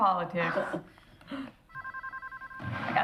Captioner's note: phone ringing